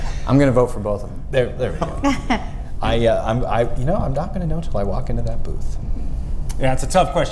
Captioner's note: laughter